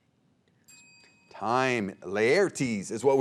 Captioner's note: bell dings